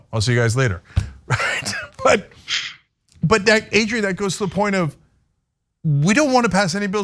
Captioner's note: laugh